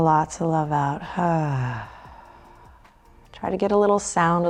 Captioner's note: sighs